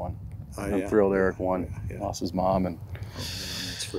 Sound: heavy breathing

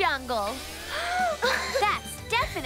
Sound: laughing

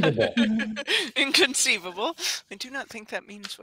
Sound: laughs

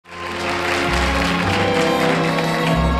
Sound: audience clapping; slow gentle music

